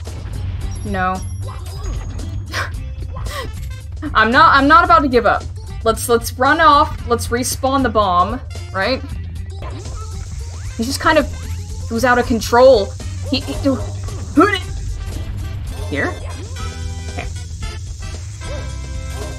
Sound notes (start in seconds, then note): 3.1 tired laugh